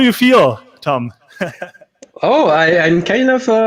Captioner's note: laughing